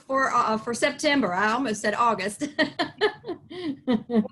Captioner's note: laughs